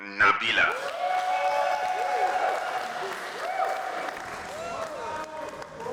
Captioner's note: applause